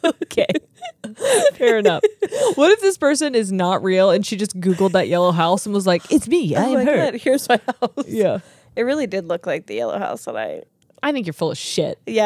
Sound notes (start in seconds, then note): 7.0 laughing